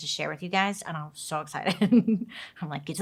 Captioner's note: laughs